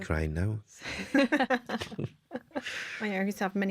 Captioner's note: laughter